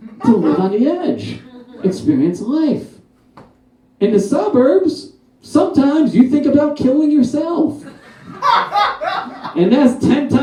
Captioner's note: one Guy Laughs